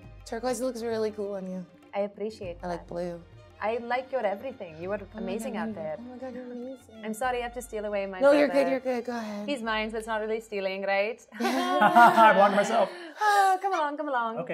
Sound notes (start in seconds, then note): 11.4 chuckles